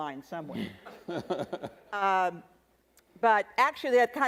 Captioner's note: attendees laughing